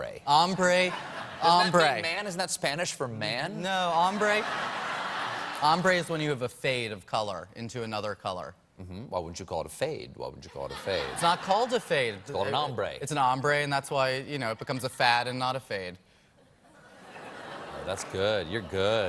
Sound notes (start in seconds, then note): 3.9 laughter